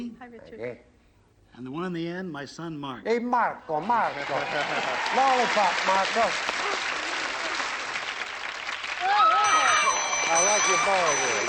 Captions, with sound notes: - Hi, Richard. - And the one on the end, my son, Mark. - Hey, Marco, Marco. - [laughs] - Lollipop, Marco. [cheering] I like your boy there.